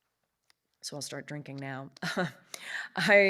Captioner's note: chuckles